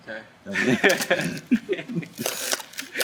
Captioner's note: laughs; camera clicks